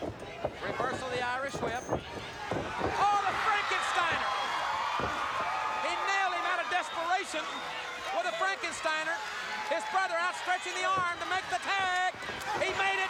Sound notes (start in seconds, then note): 4.2 audience cheers